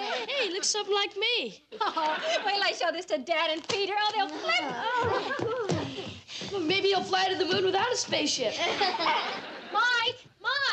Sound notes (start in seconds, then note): 1.8 chuckles; 8.5 all laugh